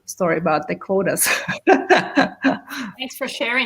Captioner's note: laughs